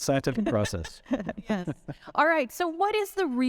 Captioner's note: all chuckling